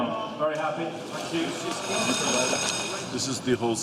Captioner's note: bell ringing